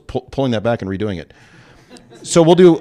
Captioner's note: laughter